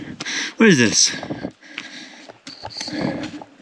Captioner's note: panting